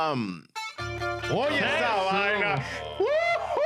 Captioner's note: speaking In Foreign Language